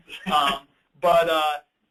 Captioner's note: laughs